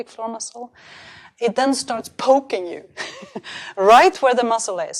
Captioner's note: chuckles